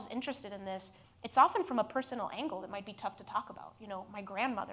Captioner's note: none